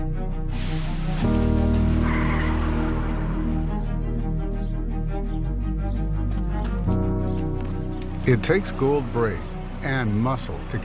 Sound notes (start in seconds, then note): 0.6 tires screech; 0.9 food sizzles; 4.0 upbeat music